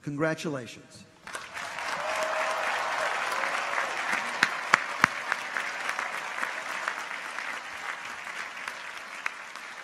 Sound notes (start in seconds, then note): 1.2 audience applauds; 1.2 people cheer